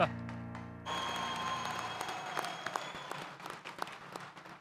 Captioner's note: audience applauds